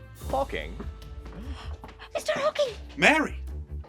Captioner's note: urgent whisper